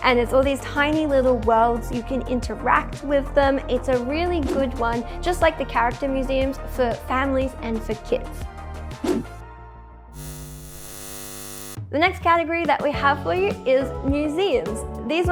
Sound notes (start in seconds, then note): 10.1 eyes buzzing